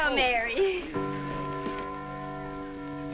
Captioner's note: clock chiming